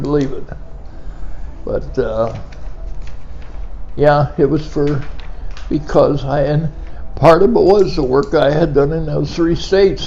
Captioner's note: pen clicking